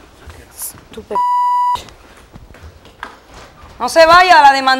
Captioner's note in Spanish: Bip